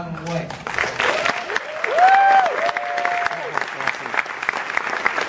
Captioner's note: crowd cheering